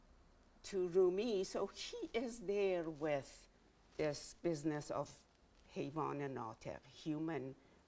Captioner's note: speaking in Farsi